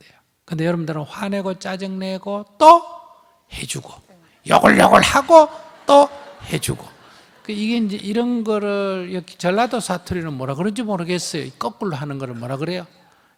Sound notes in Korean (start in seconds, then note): 4.6 청중 웃음